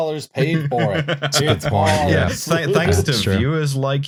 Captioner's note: laughs